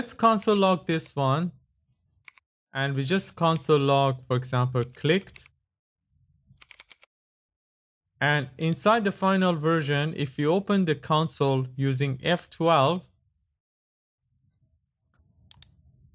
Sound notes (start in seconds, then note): 5.2 clicked